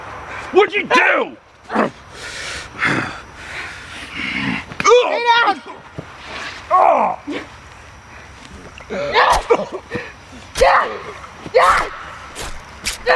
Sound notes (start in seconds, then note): 5.6 Scott grunts; 9.3 Lucy screaming, Scott choking, stabbing sounds